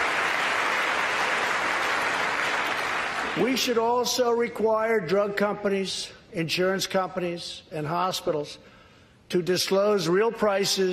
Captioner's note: applause